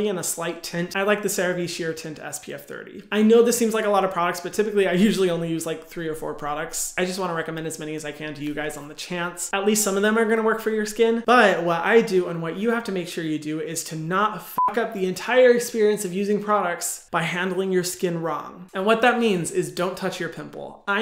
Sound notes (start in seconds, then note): 14.5 beep